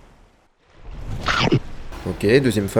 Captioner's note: Sound from Spyro: Year of the Dragon